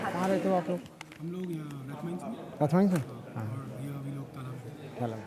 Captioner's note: speaking foreign language